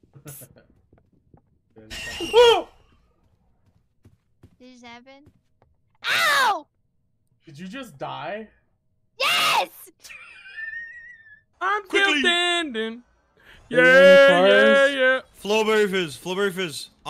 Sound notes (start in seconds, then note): 1.7 monster shrieks; 1.7 yells; 10.0 wheezes